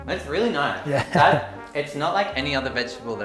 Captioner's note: chuckles